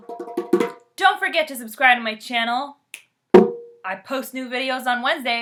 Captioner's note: drumming; snapps fingers. hits drum; steady drumming